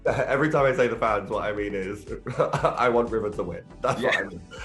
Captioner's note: laughs